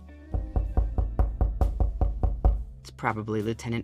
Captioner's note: knocking